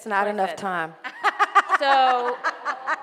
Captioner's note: laughing